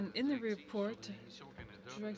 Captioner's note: speaking French